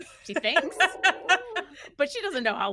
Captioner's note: everyone laughs